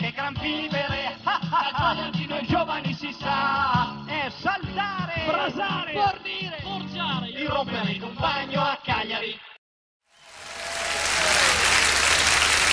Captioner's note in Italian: Applauso